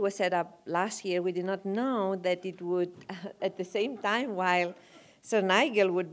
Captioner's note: laugh